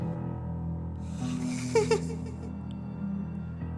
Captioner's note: laughter